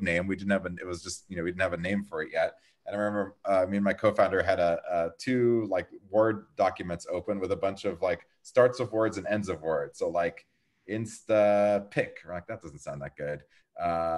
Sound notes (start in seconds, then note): none